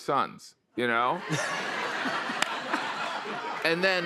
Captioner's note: laughter